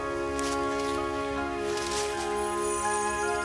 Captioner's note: leaves rustle; sparkles chime